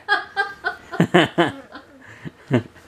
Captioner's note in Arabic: يضحك